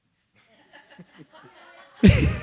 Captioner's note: audience laughs